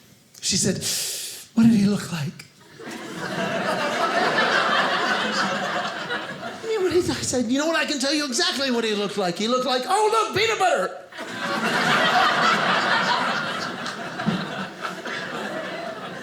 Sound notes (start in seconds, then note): 2.6 audience laughing; 11.1 audience laughing